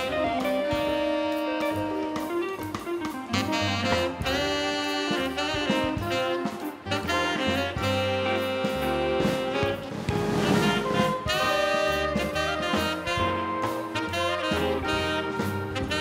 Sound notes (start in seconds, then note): none